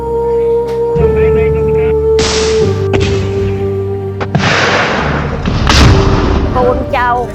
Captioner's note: bombing and Gun sounds